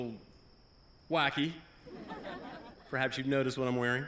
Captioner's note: laughter